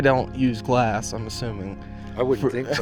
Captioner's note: laughs